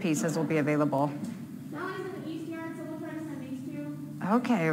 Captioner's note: talking in the background